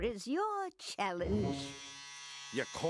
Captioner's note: buzzing